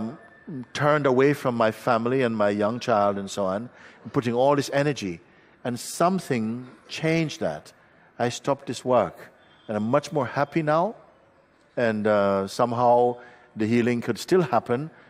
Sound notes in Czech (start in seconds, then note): none